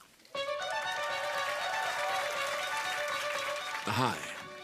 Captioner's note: cheers and applause